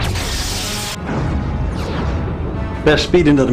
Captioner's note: explosion